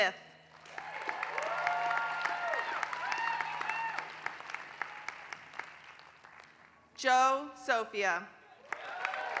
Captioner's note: applause; applause